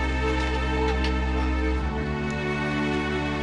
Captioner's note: chair creaks; fire crackles